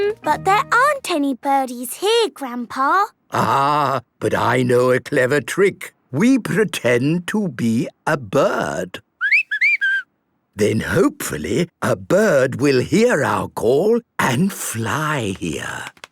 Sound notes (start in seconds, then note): 9.2 whistling